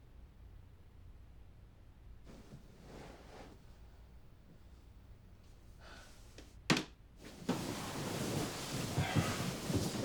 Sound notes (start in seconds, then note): 2.5 sighs; 7.0 door closes; 8.9 sighs